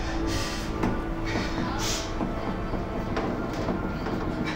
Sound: panicked breathing

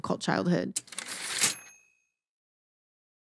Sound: typewriter ding

